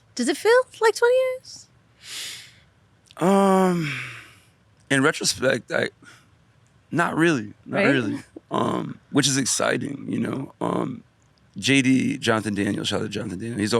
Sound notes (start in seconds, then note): 3.2 sighs deeply